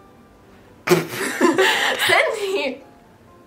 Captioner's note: laughs